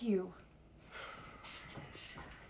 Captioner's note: Ben sighs; footsteps retreating